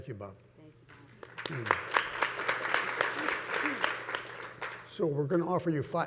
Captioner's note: panelists and audience clapping